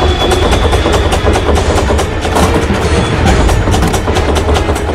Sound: door banging

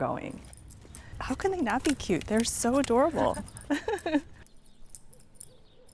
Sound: laughing

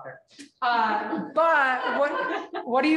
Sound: laughing

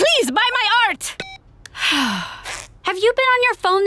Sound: sighing

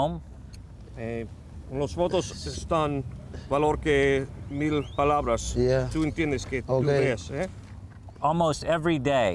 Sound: non-english speech

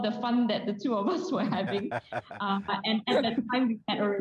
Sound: laughter

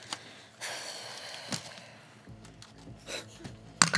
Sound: sighs

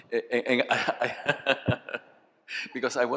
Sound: laughter

